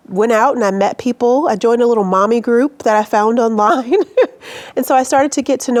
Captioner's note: laughs